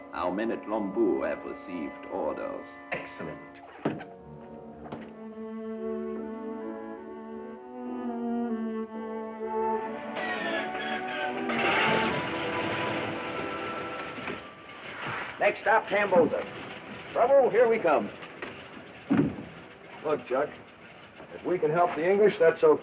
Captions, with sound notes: Our men at Lombou have received orders. - Excellent. (contemplative music) (engine rumbling) - Next stop, Tambosa. Trouble here we come. - Look Chuck, if we could help the English that's okay.